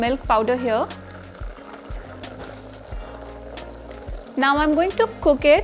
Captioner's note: sizzling sound; soft music